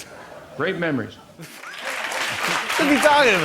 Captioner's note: laughter and applause